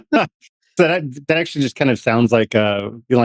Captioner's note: laughs